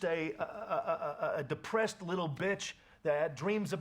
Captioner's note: stutters